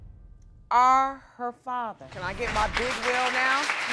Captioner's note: audience applauding